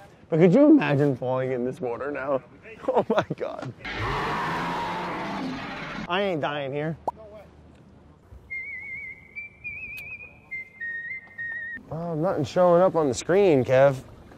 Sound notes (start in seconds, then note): 3.8 animal growling; 8.4 recorded whistling